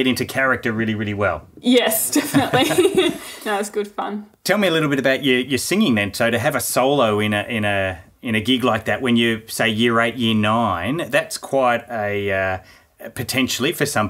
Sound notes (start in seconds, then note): 0.0 laughing; 2.2 both laughing